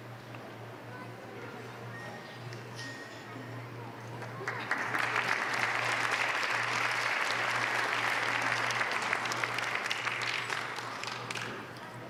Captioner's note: applause